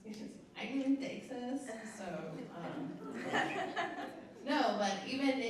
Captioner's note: laughter